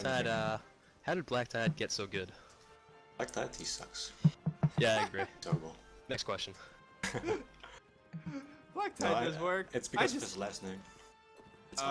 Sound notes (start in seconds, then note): 4.8 laughs; 7.7 everyone giggles